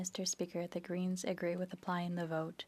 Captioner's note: speaking French